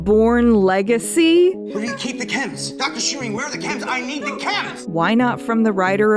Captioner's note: Bourne Legacy Jeremy Renner Man yelling about CHEMS